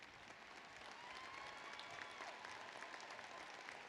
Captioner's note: applause